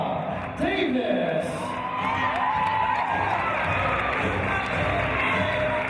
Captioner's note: cheers